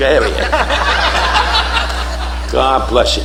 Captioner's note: audience laughing